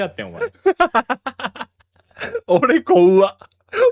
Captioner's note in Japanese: 笑い